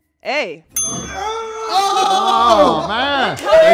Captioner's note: bell dinging; group cheering